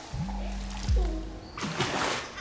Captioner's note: splash; child laughing